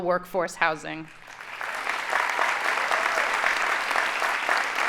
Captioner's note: audience applauding